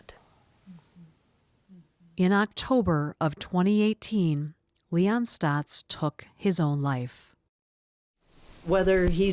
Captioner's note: voice-over